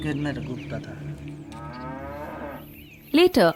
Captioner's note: cow moos